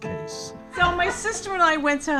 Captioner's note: audience laughing